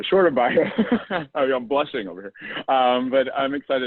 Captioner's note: laugh